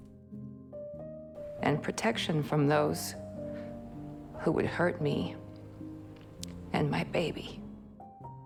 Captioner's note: voiceover